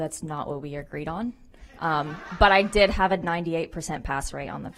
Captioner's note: applause